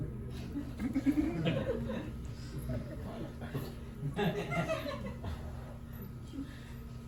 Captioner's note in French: rires